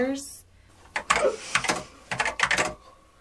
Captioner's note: typing clicks on keyboard